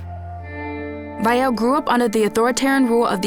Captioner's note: in English